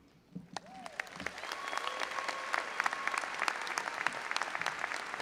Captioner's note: audience applauding and cheering